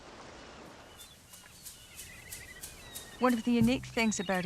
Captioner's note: mid-tempo music; seabirds calling